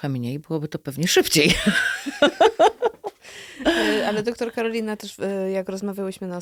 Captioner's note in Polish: śmiech